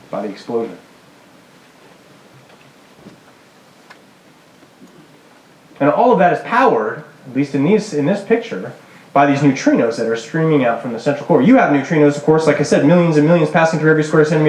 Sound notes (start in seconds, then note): none